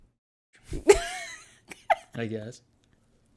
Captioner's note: laughs